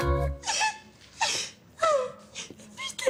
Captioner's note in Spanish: Sollozos